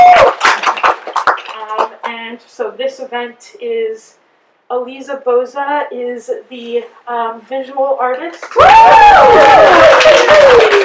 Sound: applause

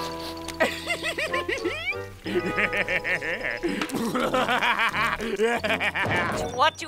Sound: laughing

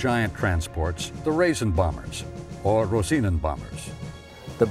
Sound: in foreign language

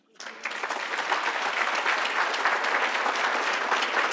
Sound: audience applauds

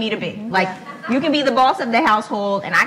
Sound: laughs

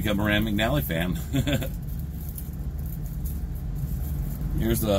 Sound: chuckles

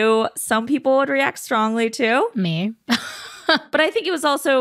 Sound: chuckles

